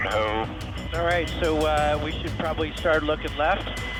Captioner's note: man Over Radio